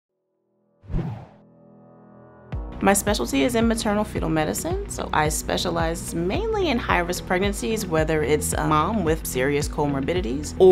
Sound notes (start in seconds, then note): 0.9 bright music; 0.9 air whooshes